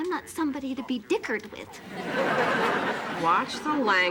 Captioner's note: audience laughing